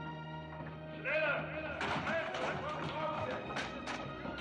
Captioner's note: men Speaking German; thumping Continues